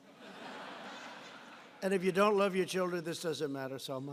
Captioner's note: laughter